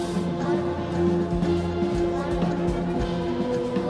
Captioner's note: muffled chanting: "Blood of the Moon"